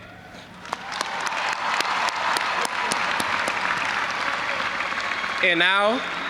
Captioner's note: audience applauding and cheering